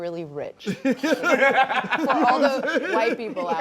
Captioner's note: laughter